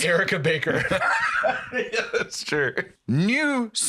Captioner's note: laughs